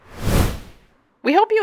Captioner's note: whoosh Sound